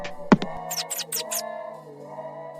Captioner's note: squirrel Chirp Sound